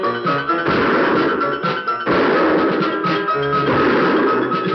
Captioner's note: gunshots